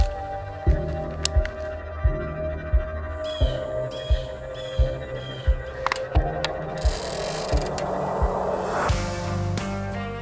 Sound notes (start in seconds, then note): 0.0 intense music; 3.2 birds caw; 6.0 up tempo music